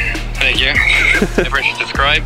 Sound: chuckles

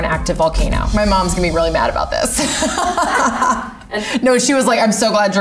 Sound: laughing

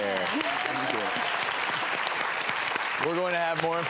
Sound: applause

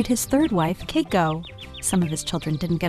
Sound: birds tweeting

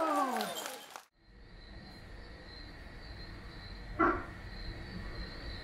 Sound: cheers from the crowd; sounds of wetland wildlife

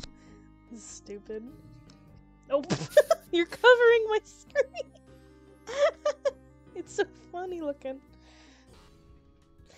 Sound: laughs

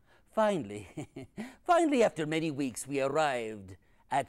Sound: laughs

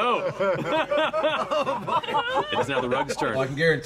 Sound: group laughter

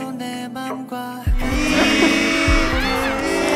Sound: heartbeat

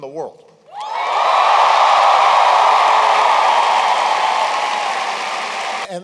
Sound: cheering

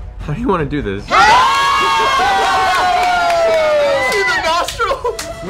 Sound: cheering

